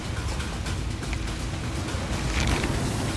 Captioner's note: splashes